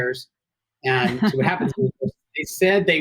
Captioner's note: laughing